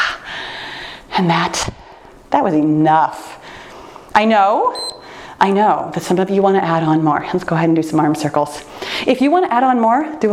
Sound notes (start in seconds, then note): 4.7 timer beeps